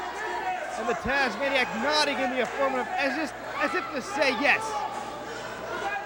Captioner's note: crowd chatter